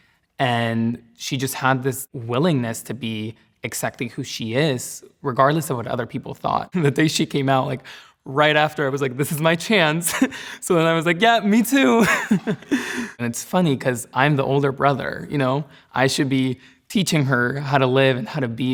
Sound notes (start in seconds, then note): 10.1 chuckles; 11.9 laughs